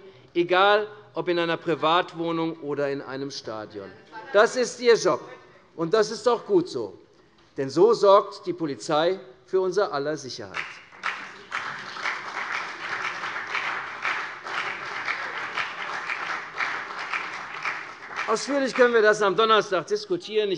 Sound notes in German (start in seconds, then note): 10.5 Beifall CDU und BÜNDNIS 90/DIE GRÜNEN